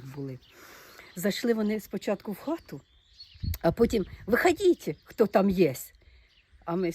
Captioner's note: in Russian